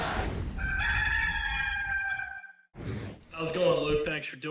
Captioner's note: logo whooshing; rooster crowing